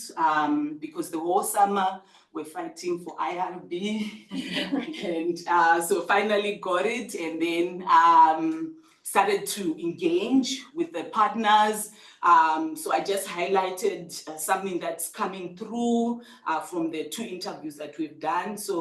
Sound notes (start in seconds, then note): 4.3 people laughing